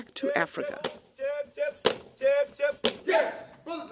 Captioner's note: chanting in foreign language